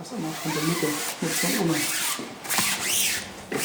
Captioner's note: wiping noises